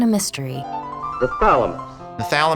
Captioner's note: voiceover